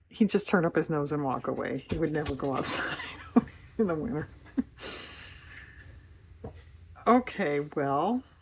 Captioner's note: laughs